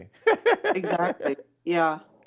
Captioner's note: laughing